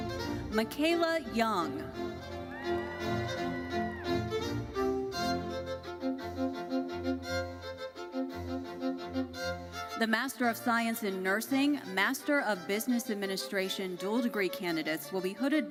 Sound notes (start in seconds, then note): 2.2 audience cheering; 2.3 audience applauding; 5.2 uplifting classical music continues